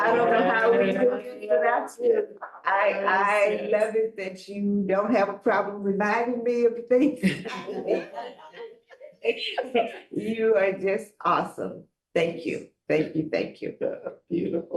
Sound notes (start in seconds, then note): 7.1 board members chattering and laughing